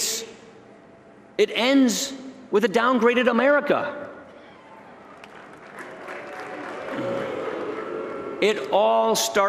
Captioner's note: booing